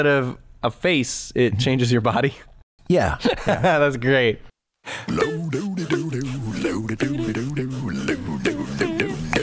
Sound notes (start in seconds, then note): 4.0 chuckle; 5.0 intro Music